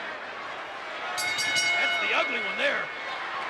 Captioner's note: bell rings